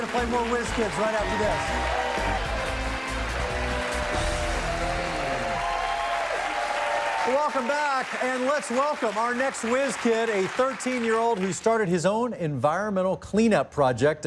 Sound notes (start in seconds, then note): 5.4 cheers and applause